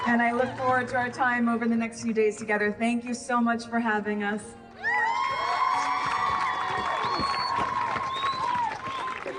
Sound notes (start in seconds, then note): 4.8 audience cheering